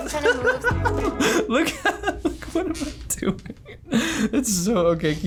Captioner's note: laughs